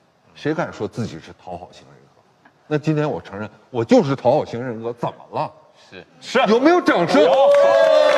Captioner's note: applause